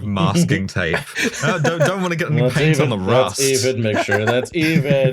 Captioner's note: laughter